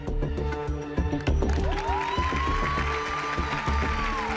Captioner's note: audience cheering